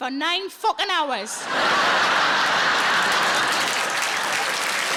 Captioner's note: audience laughing; audience applauding